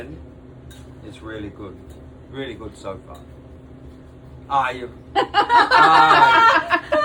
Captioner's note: laughs